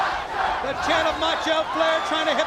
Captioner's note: crowd cheering